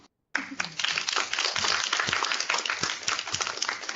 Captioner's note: applause